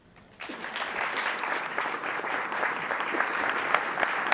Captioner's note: applauding